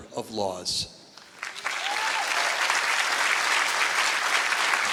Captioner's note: applause